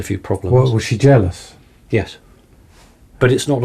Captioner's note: voiceover